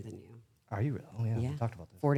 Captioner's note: Stephanie laughs